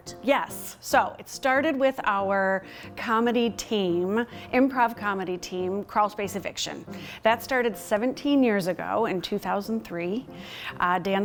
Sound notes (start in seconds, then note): none